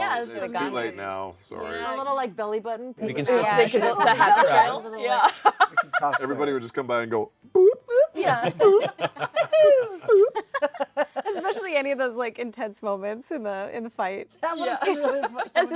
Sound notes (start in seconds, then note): 3.8 laughs; 8.2 Pillsbury Doughboy giggle; 10.9 laughter